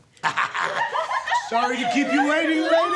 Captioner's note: girls giggling